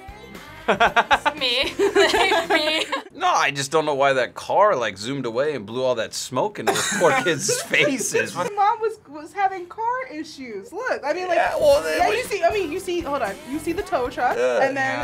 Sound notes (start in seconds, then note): 0.6 Chris laughs; 0.6 laughs